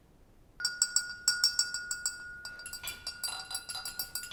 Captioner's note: glass clinking